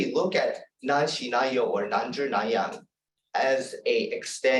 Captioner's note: non-english speech